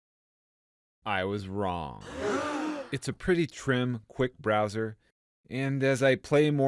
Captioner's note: gasping